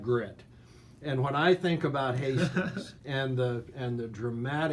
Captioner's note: laughs